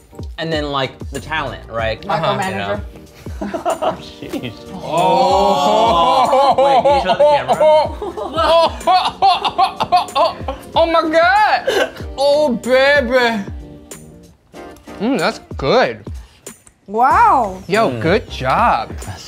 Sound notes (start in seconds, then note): 4.7 exclaiming; 8.1 exclaiming loudly